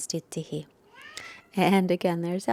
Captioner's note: Elmer meows